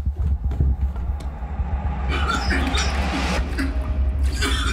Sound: gagging and coughing

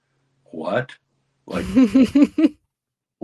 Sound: laughs

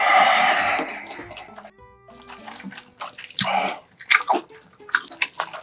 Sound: laughs

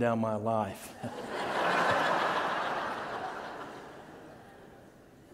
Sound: congregation laughing

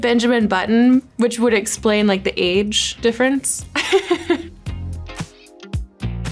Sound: giggles

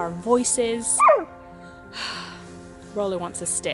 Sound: dog barks; sighs deeply

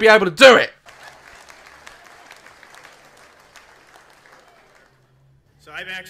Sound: audience claps for no reason

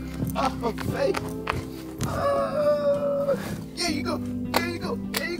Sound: exclaiming with joy

